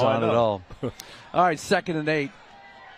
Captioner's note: laughter